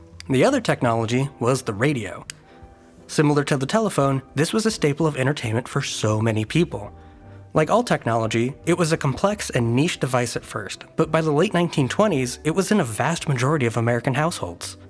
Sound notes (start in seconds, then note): 2.2 light clicks